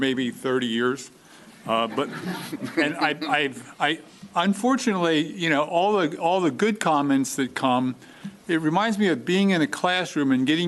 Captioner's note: laughter